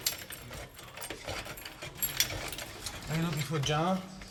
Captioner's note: key jingling; key clacking